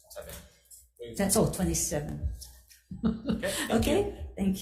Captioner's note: chuckling